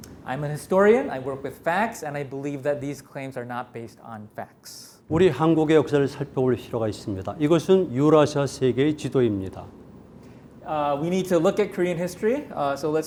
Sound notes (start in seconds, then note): 5.4 speaking in Korean